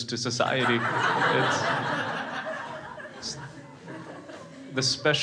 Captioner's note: crowd laughs